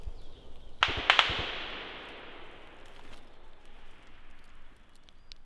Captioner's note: gun shots